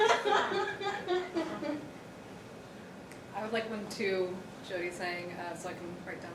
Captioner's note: laughter